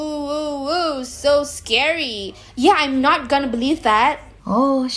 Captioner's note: sarcastically